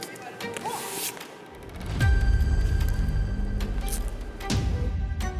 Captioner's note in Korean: 스윽